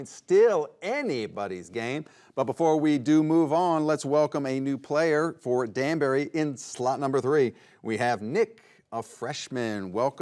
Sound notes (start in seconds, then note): none